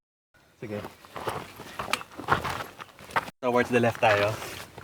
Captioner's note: footsteps